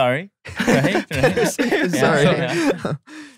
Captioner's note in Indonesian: tertawa